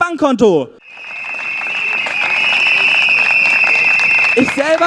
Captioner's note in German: Applaus und Trillerpfeifen